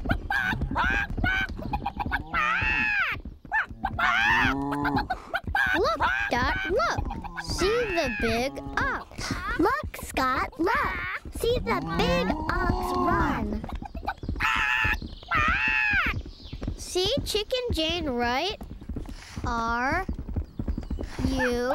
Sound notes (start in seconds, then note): 0.1 hooves thundering; 3.5 bellowing; 13.8 squawking hysterically